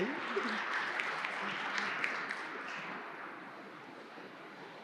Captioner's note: audience clapping hands